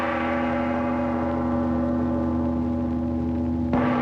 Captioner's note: gong bangs